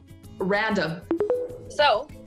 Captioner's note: tones